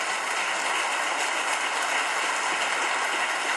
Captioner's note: audience claps